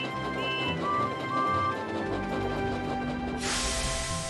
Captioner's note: Thomas' whistle blows; train whistle blows; steam hissing